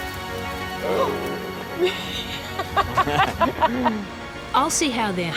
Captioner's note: laughs